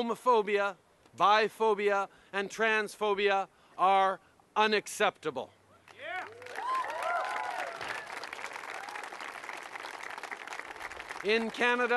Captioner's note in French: Acclamations et applaudissements